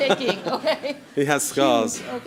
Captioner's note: laughing